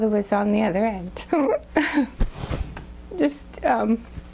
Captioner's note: sobbing